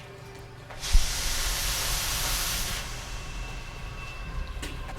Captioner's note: gas whooshing